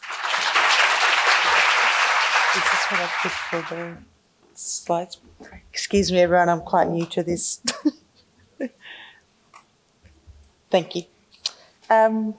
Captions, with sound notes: (applause) - Is this what I push for the slide? Excuse me everyone I'm quite new to this. (laughing) Thank you.